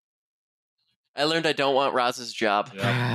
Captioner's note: laughter